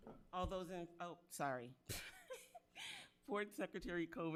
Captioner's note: laughs